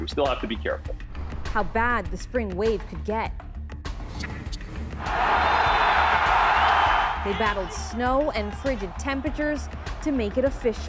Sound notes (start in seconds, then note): 9.2 cheers and Applause